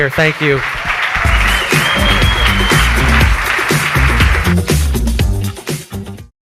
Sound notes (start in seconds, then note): 0.1 audience cheers; 4.1 upbeat music